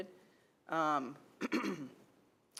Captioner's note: clears throat